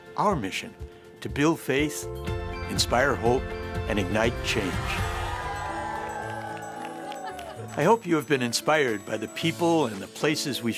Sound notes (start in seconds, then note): 4.7 sisters cheer